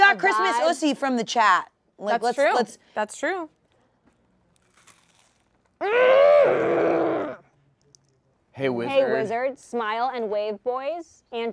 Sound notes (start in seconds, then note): 6.1 groaning